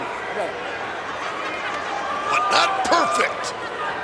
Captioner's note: audience laughs